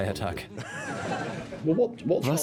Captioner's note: laughter